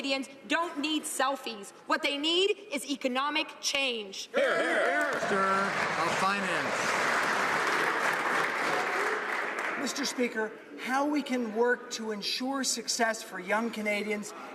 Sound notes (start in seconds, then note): 8.0 some Applause